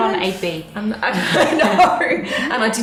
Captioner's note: laughing